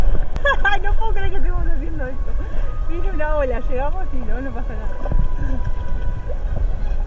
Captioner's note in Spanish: risas